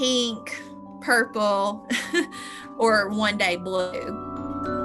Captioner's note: laugh